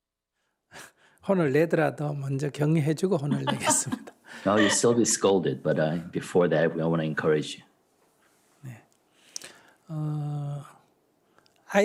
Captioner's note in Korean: 스님과 질문자 웃음